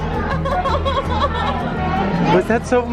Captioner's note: laughs